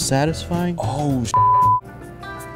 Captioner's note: beep